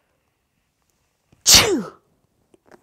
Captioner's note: sneezes